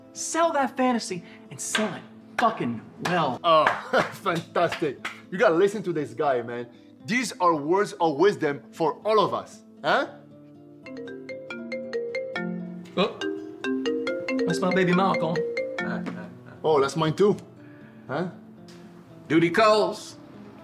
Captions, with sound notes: Sell that fantasy and sell it fucking well. - (applauds) Fantastic. You gotta listen to this guy, man. These are words of wisdom for all of us, huh? (phone ringing) - That's my baby mama calling. - Oh, that's mine, too. - Duty calls.